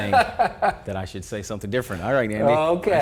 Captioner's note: laughing